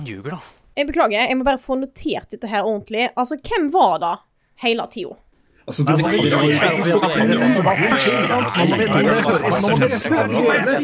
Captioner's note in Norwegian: sammensurium av diskuterende/kranglende stemmer